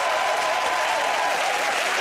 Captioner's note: cheering and applause